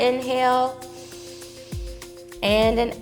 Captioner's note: inhales